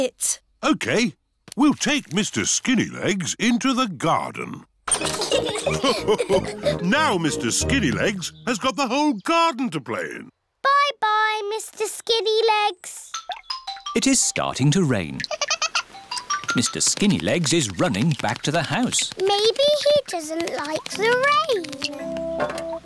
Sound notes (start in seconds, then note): 5.0 all laugh; 15.2 giggles